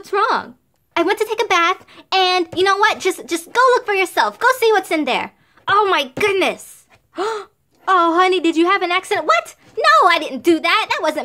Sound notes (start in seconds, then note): 7.1 gasp